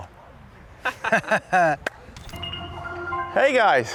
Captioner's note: laughs